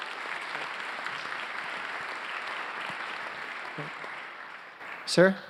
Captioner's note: applause